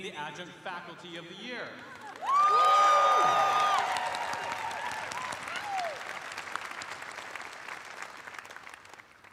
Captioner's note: cheers and applause